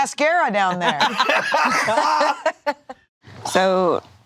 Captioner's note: all laughing